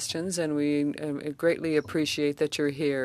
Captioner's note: speaking French